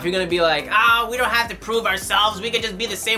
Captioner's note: nerdy voice